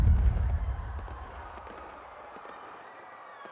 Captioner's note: distant people screaming; distant guns firing